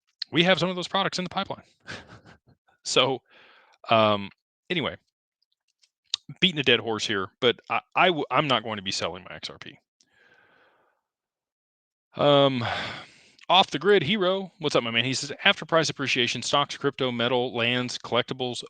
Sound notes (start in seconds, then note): 12.4 sighs